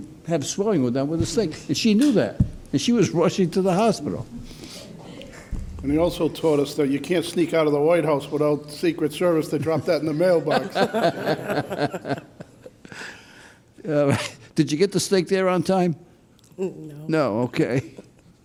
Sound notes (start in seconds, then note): 5.0 faint laughter; 11.0 laughing